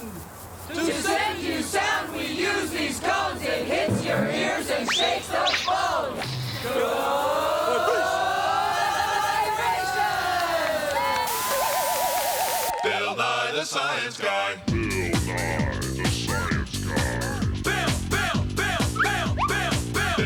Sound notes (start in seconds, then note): 10.3 cheers and applause